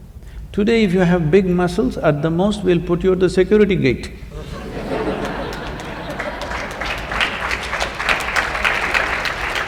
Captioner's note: laughter/Applause